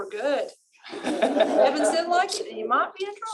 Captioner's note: laughter